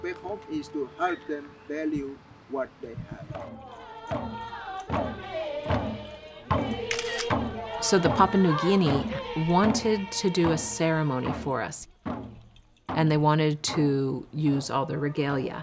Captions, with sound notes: (people singing and drumming) (camera shutter clicks) -So the Papua New Guinea wanted to do a ceremony for us and they wanted to use all the regalia